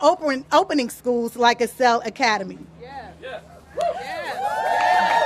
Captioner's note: applause